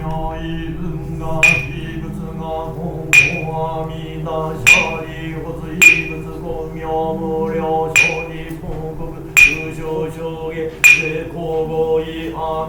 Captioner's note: sound of oak wood being struck; voices reciting sutra